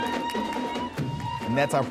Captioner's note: celebratory music; crowd cheering